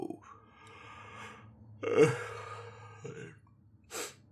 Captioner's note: yawn